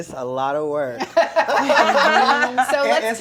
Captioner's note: laughter